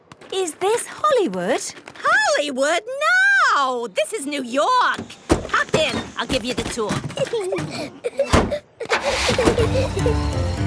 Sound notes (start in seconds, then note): 7.0 Peppa and George laughing